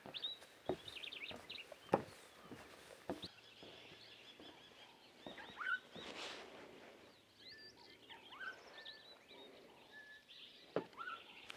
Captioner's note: birds chirping